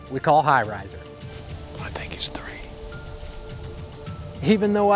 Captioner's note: whispering